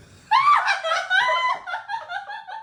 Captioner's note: laughs